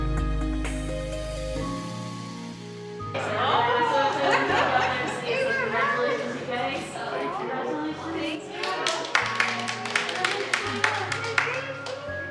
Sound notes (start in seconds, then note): 3.2 laughter; 8.6 clapping